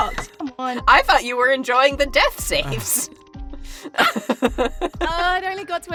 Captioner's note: chuckles